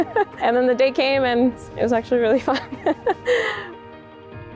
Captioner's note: chuckles; chuckles; inspirational music